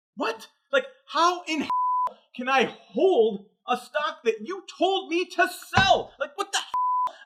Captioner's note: beep; beep